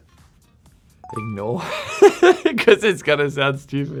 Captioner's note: laughing